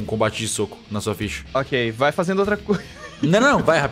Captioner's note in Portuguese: risos